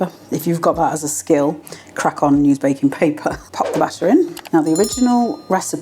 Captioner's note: none